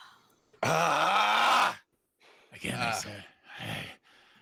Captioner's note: groans